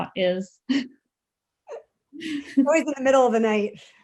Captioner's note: chuckles